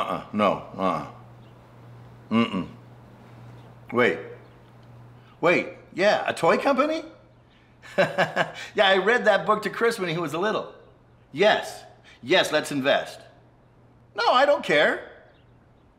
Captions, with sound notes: Uh-huh, no, uh-uh. Mm-mm, wait, wait, yeah, a toy company? (laughs) Yeah, I read that book to Chris when he was little. Yes, yes, let's invest. No, I don't care.